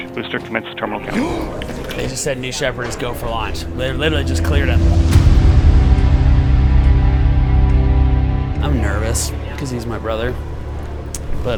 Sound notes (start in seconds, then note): 1.1 gasp; 5.1 suspenseful music